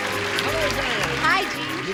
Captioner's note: applause